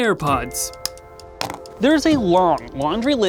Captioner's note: plastic clicking